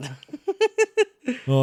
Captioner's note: laughs